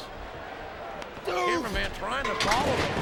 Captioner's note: Rob grunting; equipment crashing